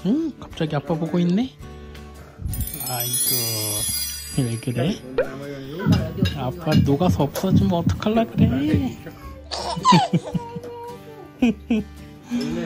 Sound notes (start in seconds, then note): 5.7 heart beating